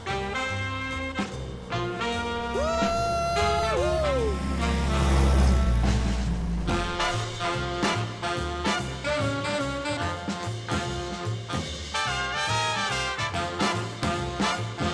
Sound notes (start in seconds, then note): 4.6 jeep engine revving; 6.7 lively music continues